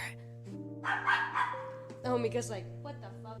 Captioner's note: dog Barking